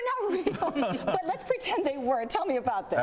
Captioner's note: laughs